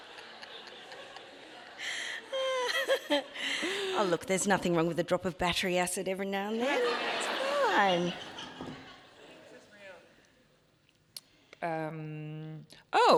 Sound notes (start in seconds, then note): 0.0 audience laughing; 0.0 both laughing; 8.0 audience laughs